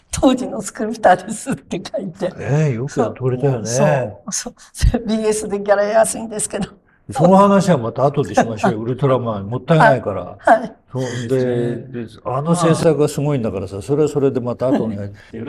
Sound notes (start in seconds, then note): 3.5 laughs